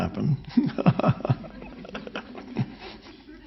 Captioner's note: laughs